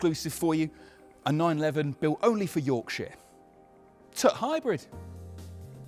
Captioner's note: in a yorkshire accent